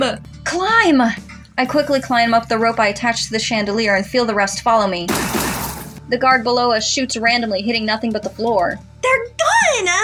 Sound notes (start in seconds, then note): 5.1 gunshots